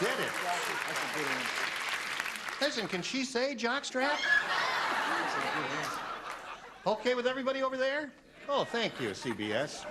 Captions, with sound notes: YOU SAID IT. [CLAPPING] LISTEN, CAN SHE SAY JOCK STRAP? [LAUGHTER] OKAY WITH EVERYBODY OVER THERE?